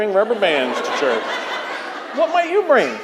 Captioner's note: crowd laughing